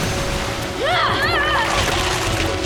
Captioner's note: grunting